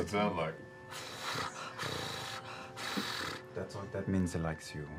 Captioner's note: purring